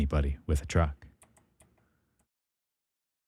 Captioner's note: keyboard Clicking